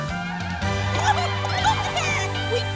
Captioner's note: clucking